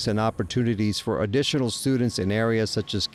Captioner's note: signal beeping